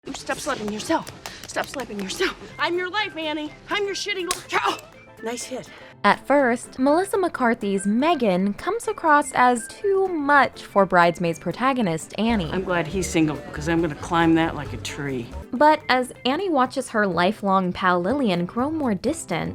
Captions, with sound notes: “Stop slapping yourself, stop slapping yourself. I’m your life, Annie. I’m your shitty life.” [Slap] “Nice hit.” At first, Melissa McCarthy’s Megan comes across as too much for Bridesmaids protagonist Annie. “I’m glad he’s single, because I’m going to climb that like a tree.” But as Annie watches her lifelong pal Lillian grow more distant,